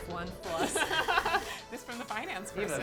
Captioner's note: laughing